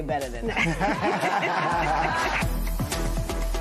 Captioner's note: laughter